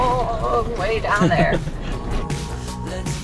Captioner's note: laughs; energetic music